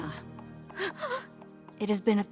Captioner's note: gasps